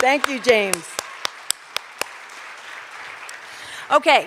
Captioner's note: cheers and applause